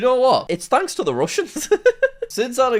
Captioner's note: laughs